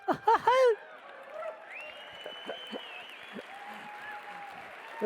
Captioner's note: audience cheering